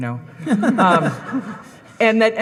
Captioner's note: audience laughing